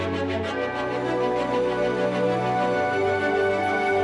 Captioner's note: none